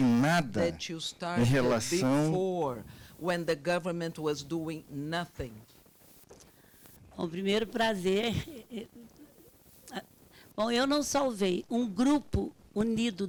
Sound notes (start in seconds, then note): 0.0 man speaking Portuguese; 7.4 speaking Portuguese